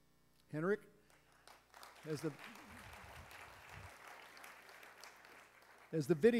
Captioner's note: applause